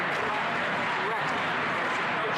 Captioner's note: chanting